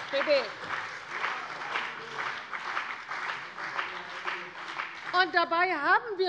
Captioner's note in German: Beifall bei der CDU und dem BÜNDNIS 90/DIE GRÜNEN